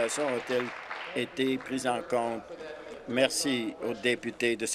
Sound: applause

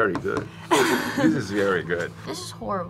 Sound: laughs

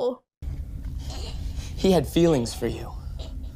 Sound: Corbett's ghost choking in the background

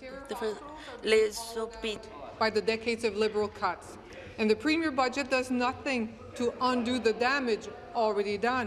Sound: speaking in French

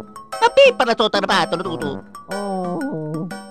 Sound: italian gibberish

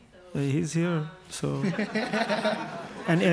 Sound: panel laughs

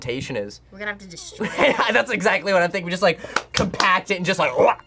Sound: laughs

